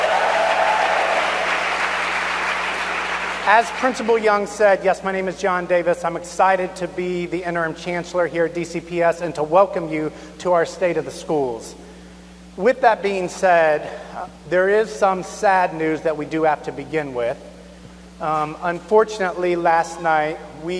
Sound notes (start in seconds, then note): 4.6 cheers and applause